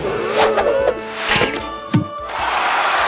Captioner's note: applause